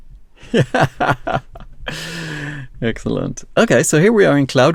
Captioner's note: laughs